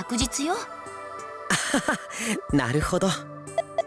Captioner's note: chuckle